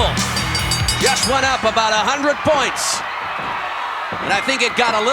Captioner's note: bell ringing; audience cheering